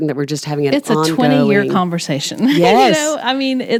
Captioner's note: chuckles